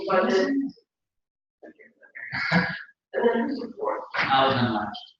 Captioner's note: laugh